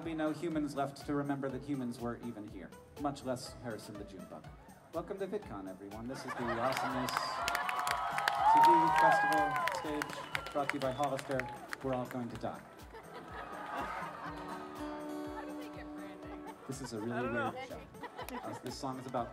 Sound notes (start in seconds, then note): 6.2 audience laughter